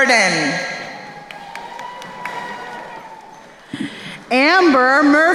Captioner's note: crowd cheering